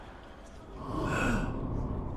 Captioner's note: sighs